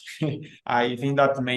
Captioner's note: chuckles